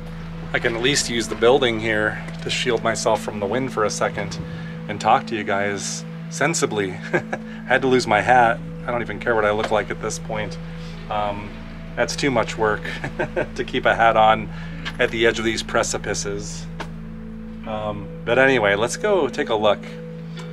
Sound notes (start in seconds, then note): 6.9 laugh